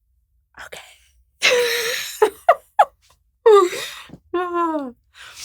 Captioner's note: laughs